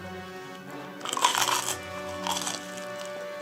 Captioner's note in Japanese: 咀嚼音